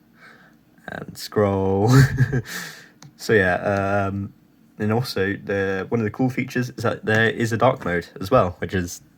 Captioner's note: he snickers